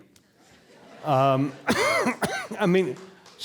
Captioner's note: audience laughing